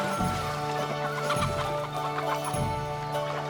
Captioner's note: squawking